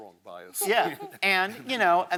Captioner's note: chuckles